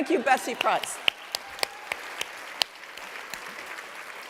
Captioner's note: applause